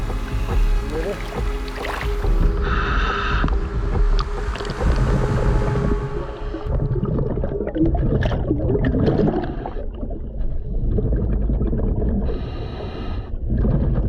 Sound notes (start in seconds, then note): 4.7 water bubbling